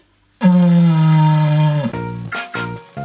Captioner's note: cardboard tube trumpeting